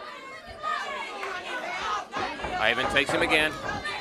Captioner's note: crowd chatter